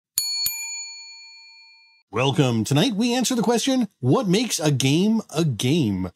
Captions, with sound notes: (bell ringing) Welcome, tonight we answer the question, what makes a game a game?